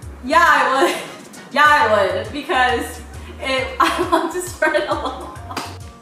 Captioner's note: laughing